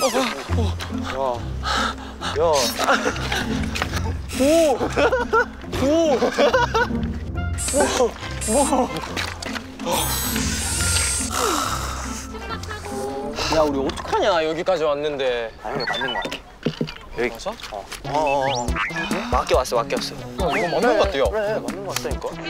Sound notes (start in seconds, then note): 5.6 failed to keep his laugh in; 9.6 sigh; 11.3 copied sigh